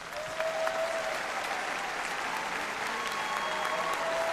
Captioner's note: applause